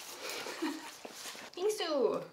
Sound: laughs

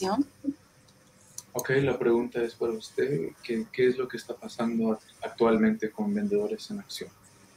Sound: speaking in foreign language

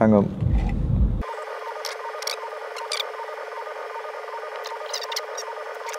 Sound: tape winding sounds

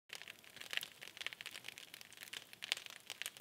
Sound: fire crackling

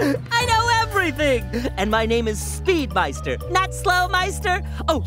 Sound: chuckling

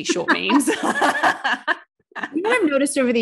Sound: both laughing

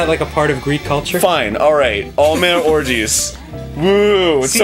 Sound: laughing

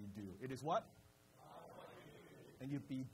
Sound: crowd

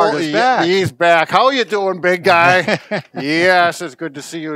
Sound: laughs

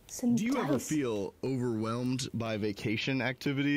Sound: male Voice

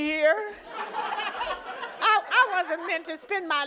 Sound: audience laughing

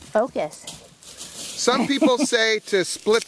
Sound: laughs

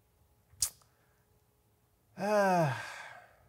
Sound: clicks teeth

